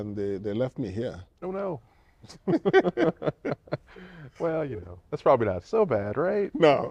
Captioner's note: laughter